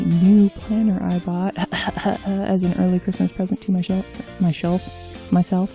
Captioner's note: cough cough